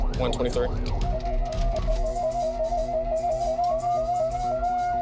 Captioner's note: siren wailing